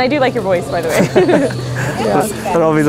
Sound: both laughing

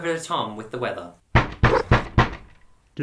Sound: knocking at the door

